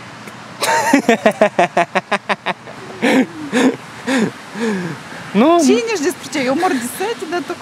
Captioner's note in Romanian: Râsete